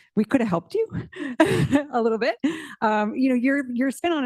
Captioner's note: giggles